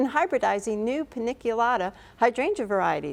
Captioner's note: none